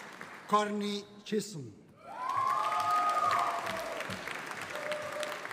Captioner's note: audience cheering